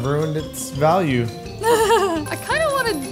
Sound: laughs

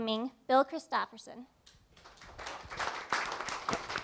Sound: applause

